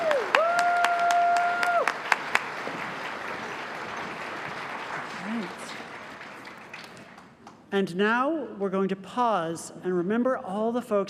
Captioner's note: applause